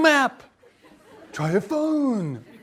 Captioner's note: laughter